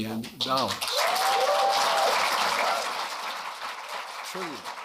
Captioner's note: applause